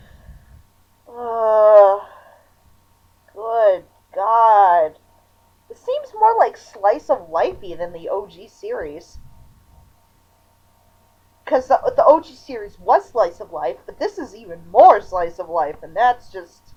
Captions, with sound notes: (moans) Good GOD. This seems more, like, slice-of-lifey than the OG series. 'Cuz the- the OG series WAS slice-of-life, but this is even MORE slice-of-life and that's just...